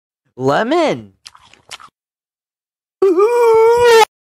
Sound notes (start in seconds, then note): 1.2 chewing noises